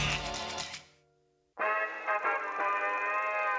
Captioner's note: quacks; film projector running; fanfare playing